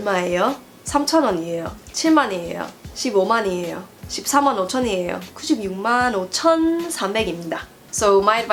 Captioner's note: speaking Korean